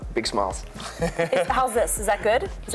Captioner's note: laughing